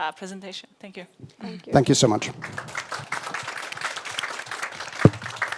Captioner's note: audience applauds